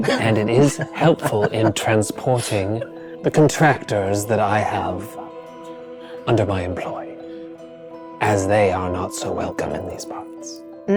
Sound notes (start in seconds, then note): 0.0 chuckling